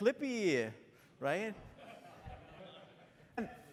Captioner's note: laughter